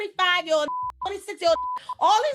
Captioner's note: beeping